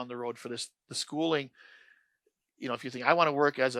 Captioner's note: inhales